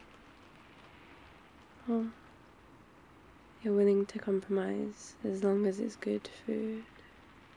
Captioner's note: starting to sound sleepy